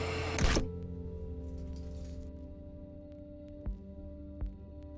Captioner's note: effect clicks; static crackles; somber music